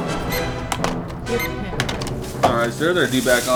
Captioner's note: dramatic music; scanner beeping